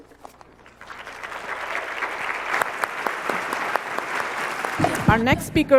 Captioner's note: applause